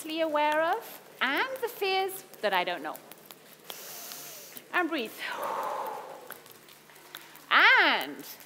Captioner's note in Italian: Respiro